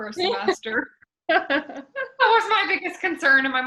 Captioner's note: laughs